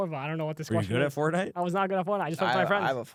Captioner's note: laughs